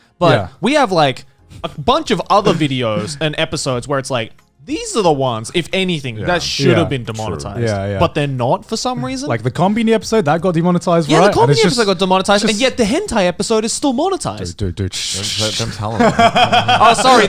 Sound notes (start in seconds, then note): 15.5 Garnt shushing